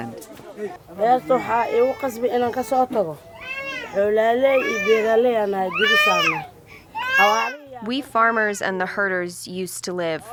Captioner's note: through translator